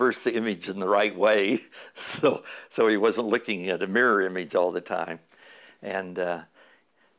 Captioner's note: chuckle